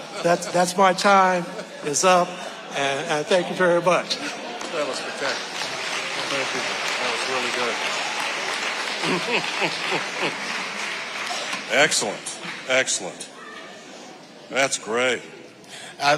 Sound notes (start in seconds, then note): 5.8 audience applauding; 8.8 audience applauding; 8.8 chuckling